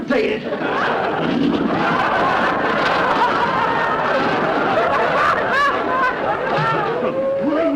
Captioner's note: audience laughter